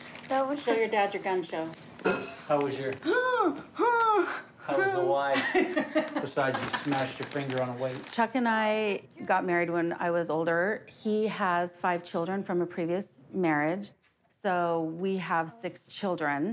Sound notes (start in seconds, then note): 3.9 grunts; 5.4 laughs